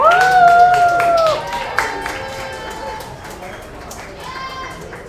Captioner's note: audience applauds